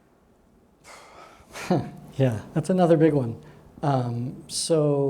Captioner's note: sighs and chuckles